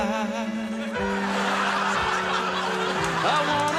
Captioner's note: audience laughs